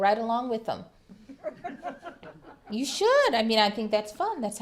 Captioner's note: laughter